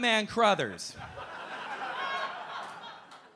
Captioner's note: audience laughing